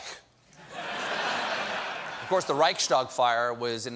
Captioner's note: laughter